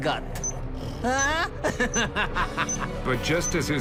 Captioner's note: cackles